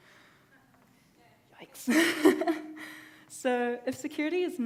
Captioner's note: laughs